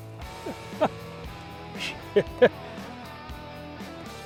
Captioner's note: laughing